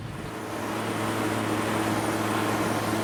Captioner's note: running engine